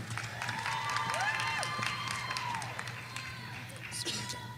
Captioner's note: audience applauding